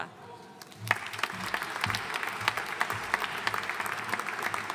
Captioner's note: audience applauding